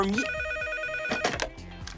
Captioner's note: phone rings